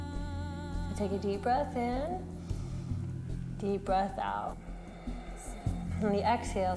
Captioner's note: breathes